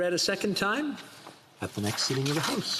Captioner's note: speaking French